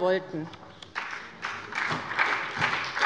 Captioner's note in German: Beifall bei der SPD